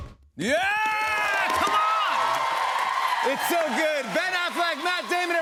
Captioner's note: cheers and applause